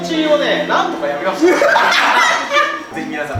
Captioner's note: bursts out laughing